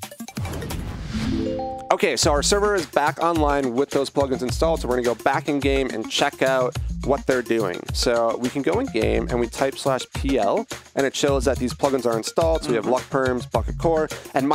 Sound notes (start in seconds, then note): 0.6 whooshing flourish; 1.5 ding